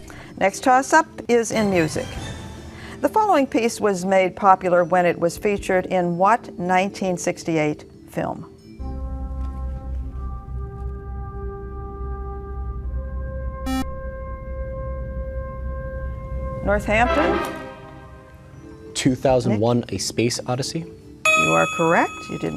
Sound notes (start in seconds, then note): 8.9 dramatic music; 13.5 beeping